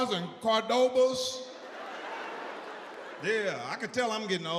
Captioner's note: audience laughs